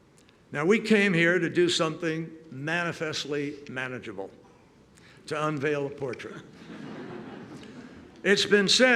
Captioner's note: laughter